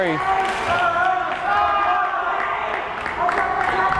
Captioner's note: crowd cheering